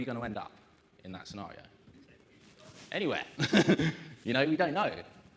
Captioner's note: laughs